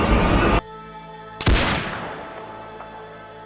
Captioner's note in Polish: wystrzał